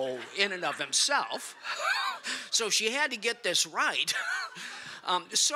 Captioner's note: laughter